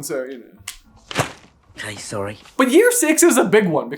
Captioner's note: thwap!